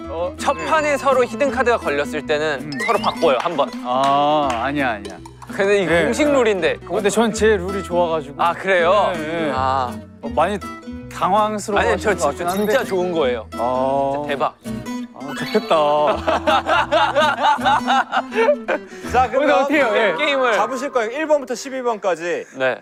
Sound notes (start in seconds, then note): 15.3 hahahahahaha; 15.3 chuckling